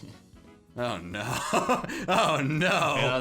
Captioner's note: laughs